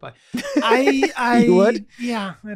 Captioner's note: Glenn laughing